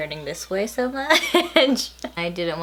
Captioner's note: laughs